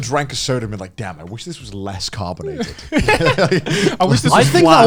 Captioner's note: laughs